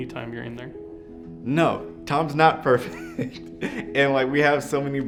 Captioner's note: laughs